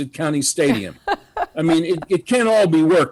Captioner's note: laughs